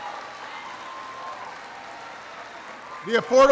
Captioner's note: applause